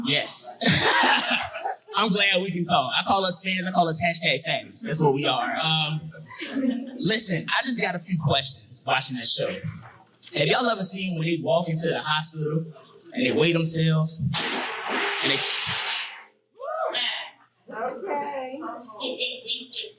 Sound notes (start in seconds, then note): 14.3 loud crashing